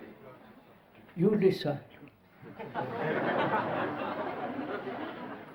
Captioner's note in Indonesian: Tertawa